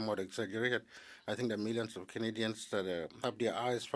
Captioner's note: speaking French